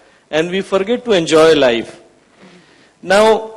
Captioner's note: none